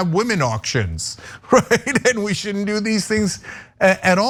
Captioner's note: laugh